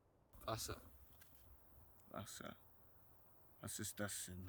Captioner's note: speaking German